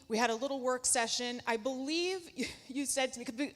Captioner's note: laughs